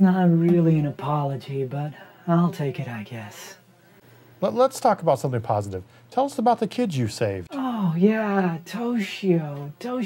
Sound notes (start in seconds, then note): none